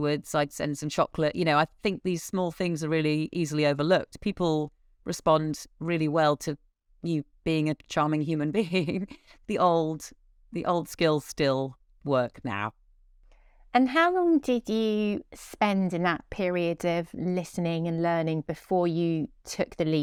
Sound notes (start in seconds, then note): 8.6 giggles